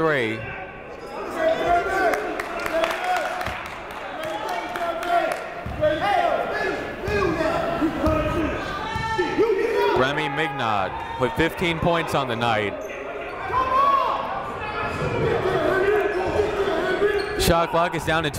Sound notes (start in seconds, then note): 1.7 shouting; 2.1 clapping; 8.2 shouting